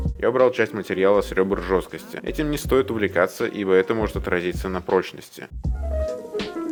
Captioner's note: weird russian language